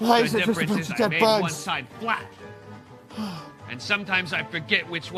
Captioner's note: Ranboo sighs